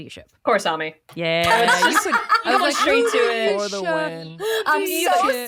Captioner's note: laughs